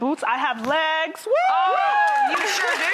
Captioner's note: cheering